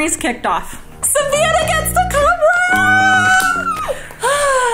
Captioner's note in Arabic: صرير متحمس